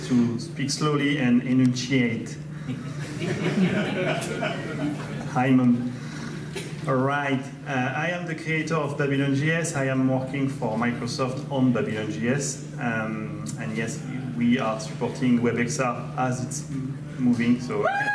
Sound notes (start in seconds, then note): 2.7 audience laughter